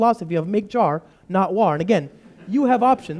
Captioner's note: laughter